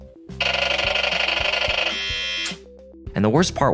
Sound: computer buzzing

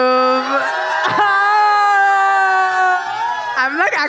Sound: audience cheers

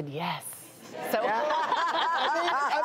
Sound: laughing

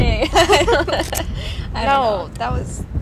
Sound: laughs

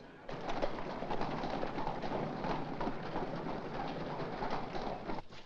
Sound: carriage rattling

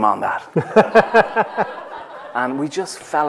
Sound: laughter

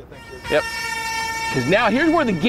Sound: siren blaring

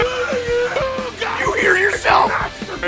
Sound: Harry potter screaming; screaming

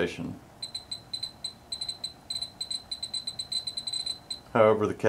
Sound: beeps

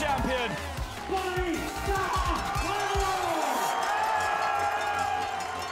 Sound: crowd cheering

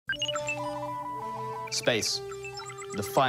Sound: electronic beeps

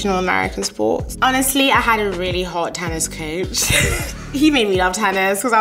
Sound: laughs

